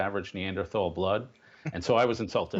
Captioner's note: laughter